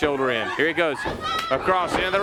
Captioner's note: crowd chatter